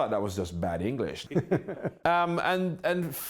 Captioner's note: laughter